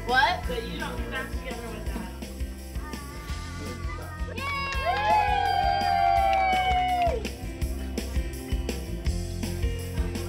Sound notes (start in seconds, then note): 2.8 cooing; 5.6 crowd cheering and clapping; 7.3 upbeat pop music